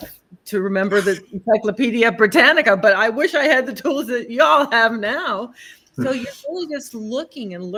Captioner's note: laughter